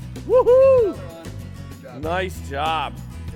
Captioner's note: shouting